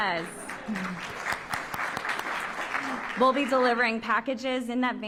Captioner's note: applause